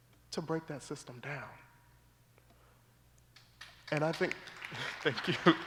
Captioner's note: applause